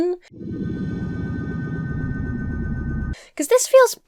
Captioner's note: whooshing sound effect